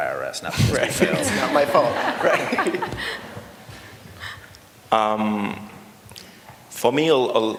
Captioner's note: laughter